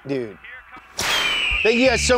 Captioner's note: eagle screeches